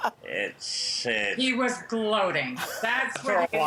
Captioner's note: laughter